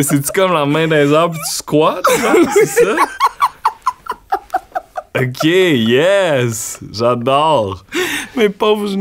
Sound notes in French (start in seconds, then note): 2.0 éclat de rire